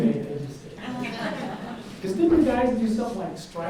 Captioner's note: audience laughs